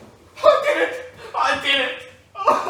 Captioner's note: gasp